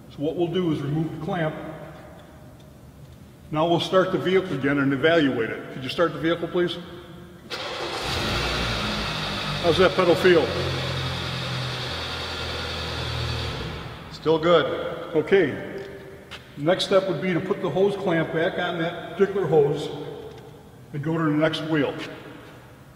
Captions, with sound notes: What we'll do is remove the clamp. Now we'll start the vehicle again and we'll evaluate it. Could you start the vehicle, please? [Car Starting] How's that pedal feel? Still good. The next step would be to put the hose clamp back on that particular hose and go to the next wheel.